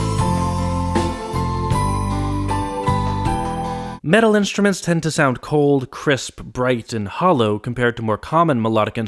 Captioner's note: bang